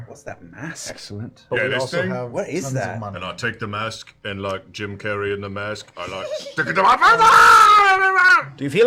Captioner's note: yells